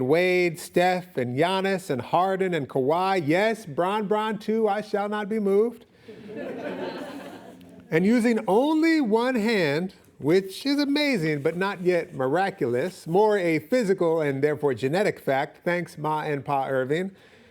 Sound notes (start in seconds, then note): 6.1 audience laughing